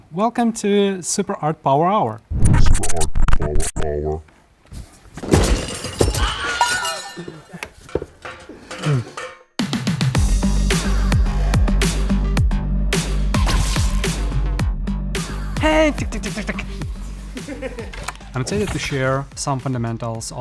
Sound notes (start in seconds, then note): 2.3 distorted Voice; 4.8 objects clatter; 16.3 mimics gunshots